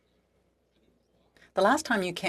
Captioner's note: speaking French